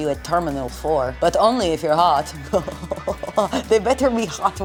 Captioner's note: laughing